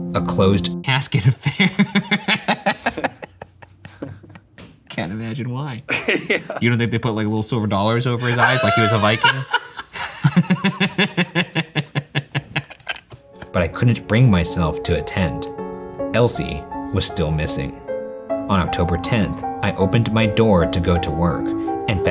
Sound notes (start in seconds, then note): 1.5 laughing; 5.9 laughs; 8.2 laughing